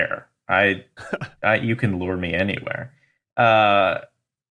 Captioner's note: chuckles